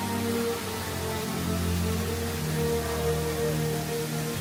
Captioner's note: water rushes